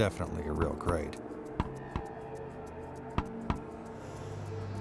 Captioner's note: hammer thunking